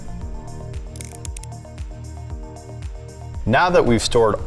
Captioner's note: words clicking